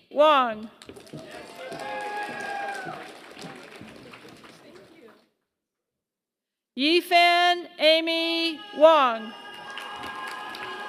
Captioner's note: applause; applause